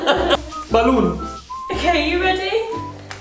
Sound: weird voice

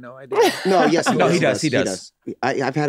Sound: Megan laughs

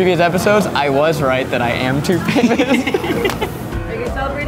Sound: laughs

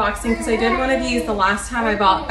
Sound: cooing

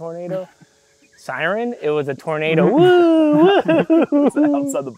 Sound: laughs

